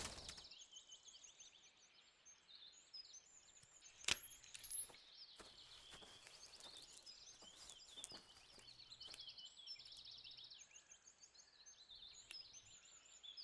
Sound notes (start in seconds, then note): 2.7 gun chamber opens